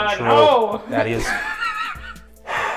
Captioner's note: cracks up